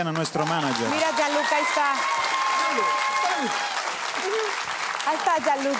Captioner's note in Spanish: Público ovaciona